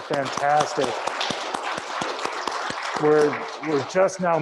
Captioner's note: audience claps